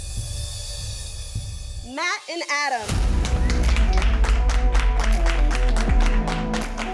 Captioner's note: cheers